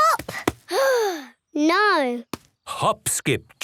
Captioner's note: sigh